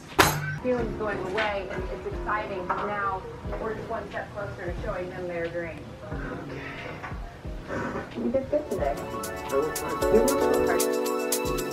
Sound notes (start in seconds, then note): 1.0 murmurs; 8.2 upbeat music